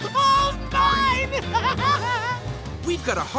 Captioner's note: laughing